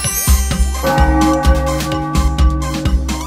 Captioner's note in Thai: เสียงระฆัง